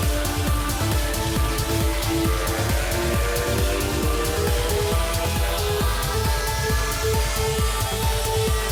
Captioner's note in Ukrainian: оплески